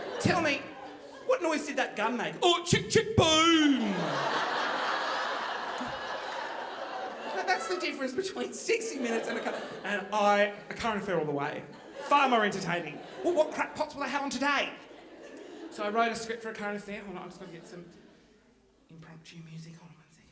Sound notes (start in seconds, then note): 4.4 audience laughing